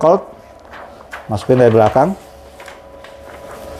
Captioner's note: PET film noise